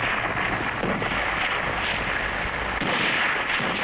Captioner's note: gunfire